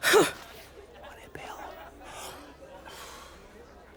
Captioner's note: gasps; quietly